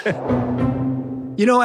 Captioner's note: both laughing